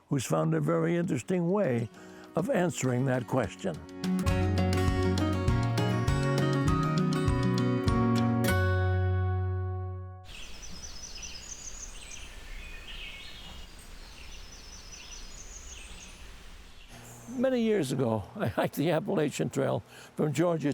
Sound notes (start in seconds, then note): 3.5 relaxing music playing; 10.2 birdsong